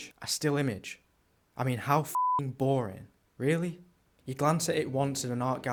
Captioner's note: beep